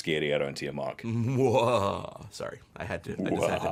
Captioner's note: laughs evilly